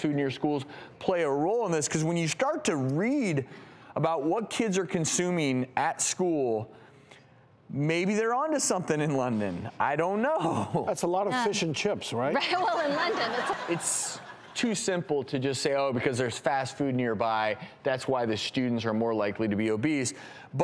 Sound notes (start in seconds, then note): 12.4 audience laughter